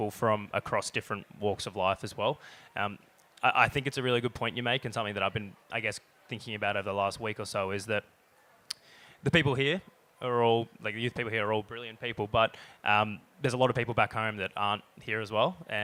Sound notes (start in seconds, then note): none